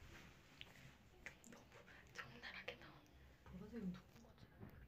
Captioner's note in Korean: 속닥